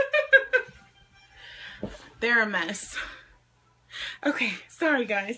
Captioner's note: laughs